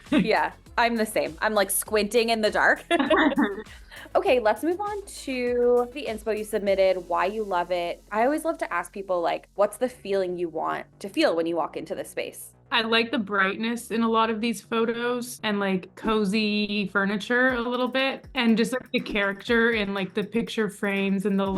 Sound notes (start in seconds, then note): 2.9 laughing